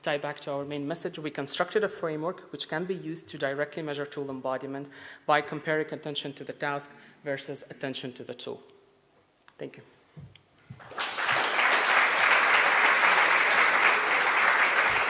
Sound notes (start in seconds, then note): 10.8 audience applause